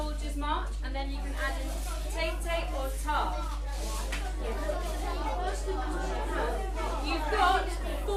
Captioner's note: children talking